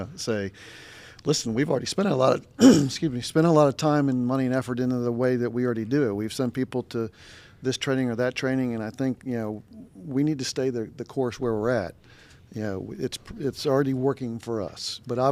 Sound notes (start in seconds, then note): 2.6 clears throat